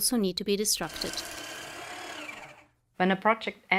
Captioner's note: sound of shredder